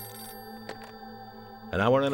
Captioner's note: phone beeping